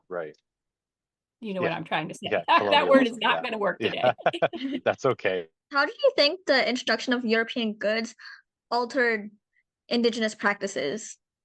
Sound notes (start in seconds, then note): 3.8 laughs